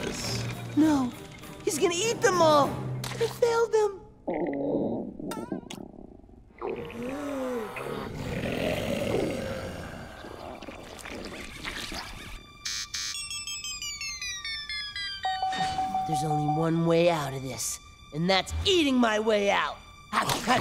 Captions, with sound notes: No. He's gonna eat them all. I failed them. [growling] [growling] [beeping] There's only one way out of this, and that's eating my way out.